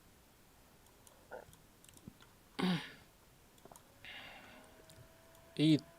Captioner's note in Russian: откашливается